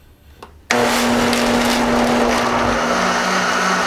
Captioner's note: whirring